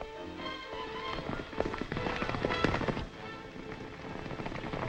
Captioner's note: horses galloping